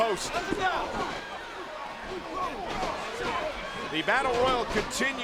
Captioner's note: crowd yelling; wrestlers chattering